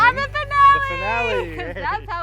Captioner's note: laughs